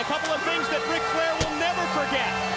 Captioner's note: crowd cheering